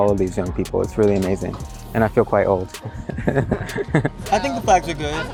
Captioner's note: laughs